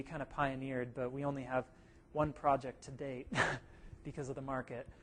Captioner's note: laugh